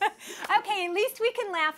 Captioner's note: laughter